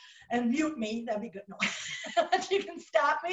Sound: laughing

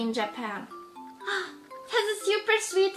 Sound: gasp

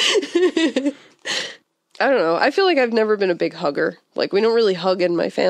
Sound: laughs

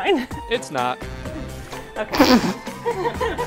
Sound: laughs

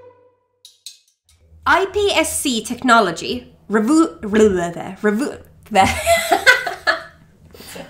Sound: burble

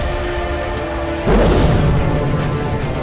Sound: whooshing sound

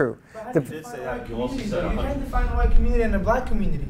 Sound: arguing

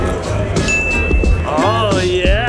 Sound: bell dings

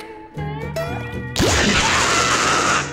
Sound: screaming

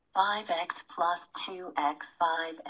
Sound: computer voiceover

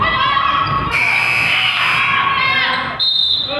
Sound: buzzer goes off; whistle blows

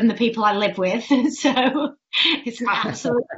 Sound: laughs

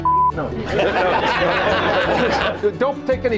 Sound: crowd laughs

